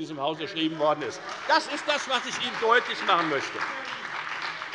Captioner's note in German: Beifall bei der FDP und der SPD